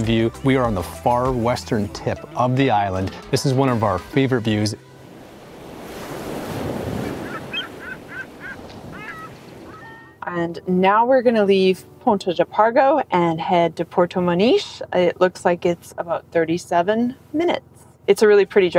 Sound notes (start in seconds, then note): 4.9 waves crashing, seagulls squawking